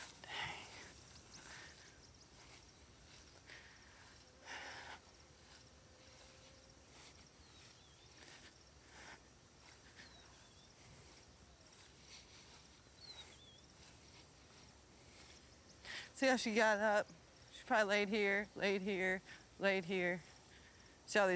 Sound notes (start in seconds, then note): 3.3 breathing heavily; 4.5 flies buzzing; 9.7 breathing heavily